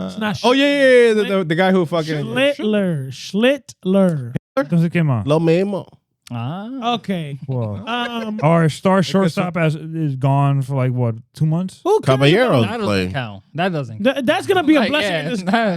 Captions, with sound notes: Oh yeah, the guy who fucking-- Schittler, Schittler. (Speaking In Foreign Language) Okay. Our star shortstop is gone for like what, two months? Who can't? How about a hero? That doesn't count. That's gonna be a blessing in this game.